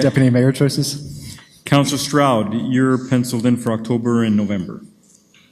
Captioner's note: laughs